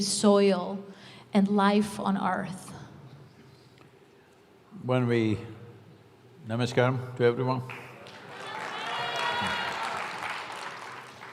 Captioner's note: applause